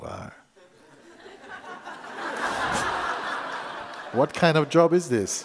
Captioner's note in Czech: Posluchači se smějí